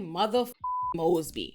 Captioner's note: beep